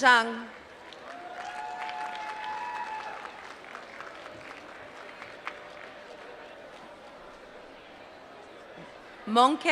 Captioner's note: applause